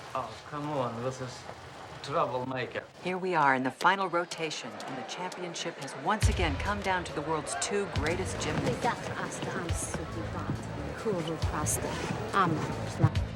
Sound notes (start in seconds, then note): 10.5 speaking romanian